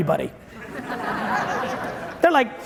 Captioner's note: audience chuckling